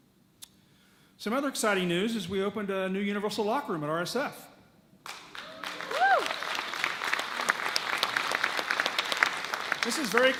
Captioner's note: audience claps